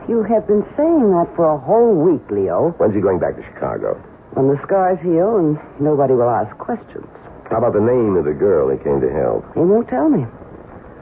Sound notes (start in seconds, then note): none